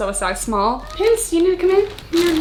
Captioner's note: cat meowing